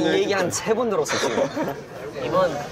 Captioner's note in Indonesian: Haha